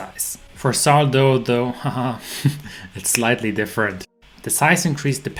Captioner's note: laughing